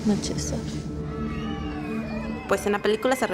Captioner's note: kids yelling